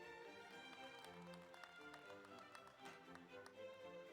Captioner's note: audience applauds